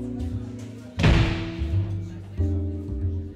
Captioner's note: door slams